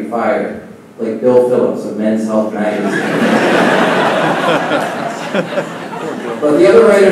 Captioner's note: laughing